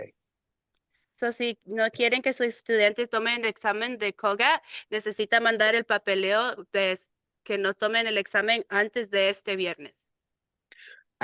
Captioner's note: speaking in Spanish